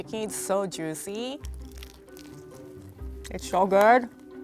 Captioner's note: drumstick crunches